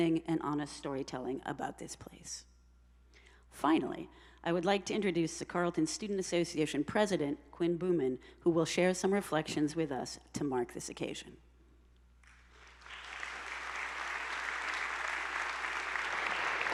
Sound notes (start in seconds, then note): 12.3 attendees applauding